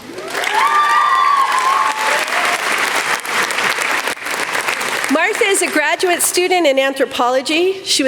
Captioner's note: applause